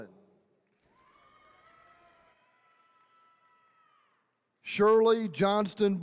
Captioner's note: attendees cheering